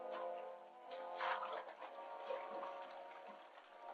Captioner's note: water splashing